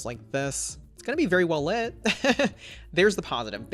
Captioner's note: laughs